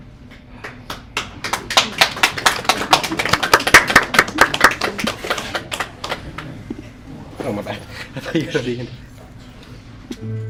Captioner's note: clapping